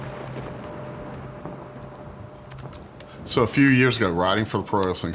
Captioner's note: thunder rumbling